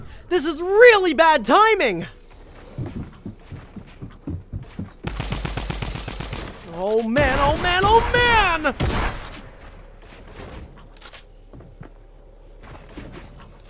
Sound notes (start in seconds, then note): 5.0 gun bangs; 9.0 gun bangs